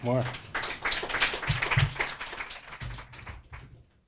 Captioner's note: audience applauds